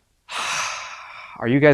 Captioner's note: sighs